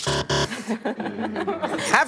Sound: buzzer

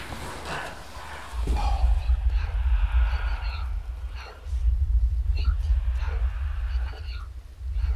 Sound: whispers in Latin

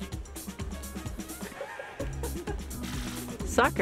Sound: laughter

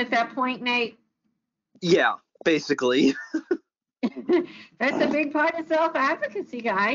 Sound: laughs

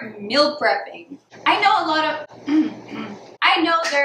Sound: clears throat

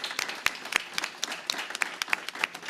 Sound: applause

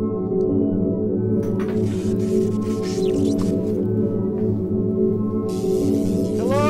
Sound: electrical humming

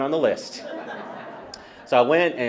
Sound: laughter

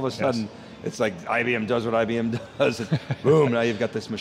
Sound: laughing

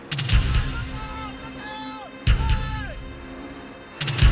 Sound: yelling

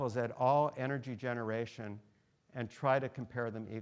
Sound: none

